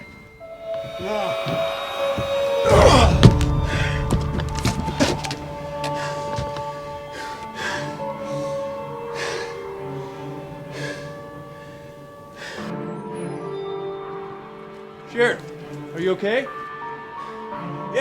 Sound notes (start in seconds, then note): 2.6 henchman groans; 12.7 tense music